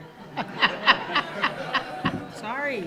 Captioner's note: attendees laughing